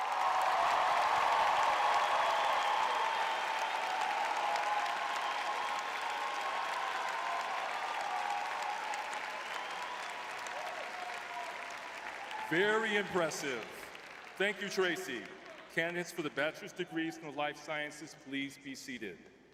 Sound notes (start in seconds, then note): 0.7 cheering; 9.0 clapping